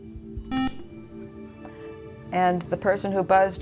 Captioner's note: beeping